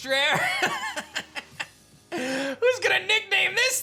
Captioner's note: laughs